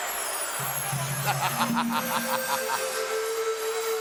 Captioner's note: Ted laughs